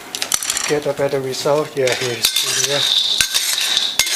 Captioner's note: stirring